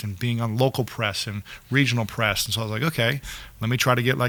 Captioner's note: none